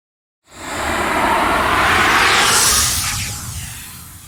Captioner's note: air whooshing